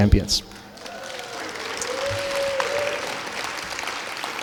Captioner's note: clapping